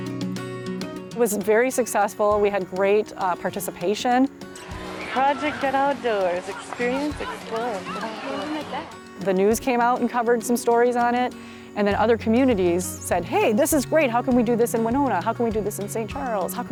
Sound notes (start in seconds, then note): 4.8 people chattering distantly